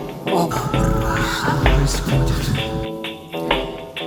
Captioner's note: Takhisis's moan